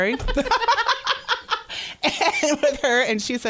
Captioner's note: laughter